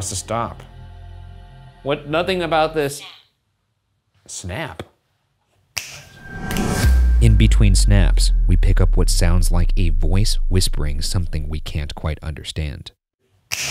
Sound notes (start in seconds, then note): 5.8 fingers snapping